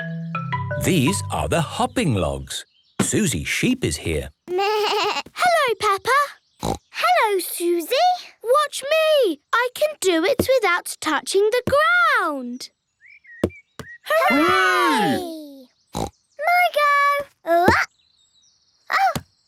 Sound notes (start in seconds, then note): 6.6 snorts; 15.9 snorts